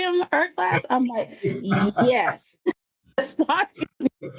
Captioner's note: laughs